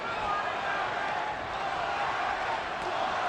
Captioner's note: audience chanting "morales!"